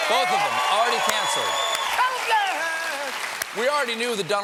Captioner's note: applause